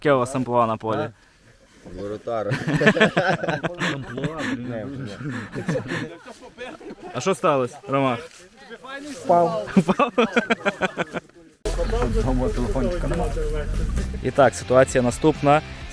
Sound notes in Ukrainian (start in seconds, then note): 2.4 Сміються; 9.6 Сміється